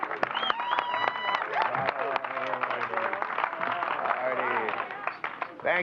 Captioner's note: indistinct chatter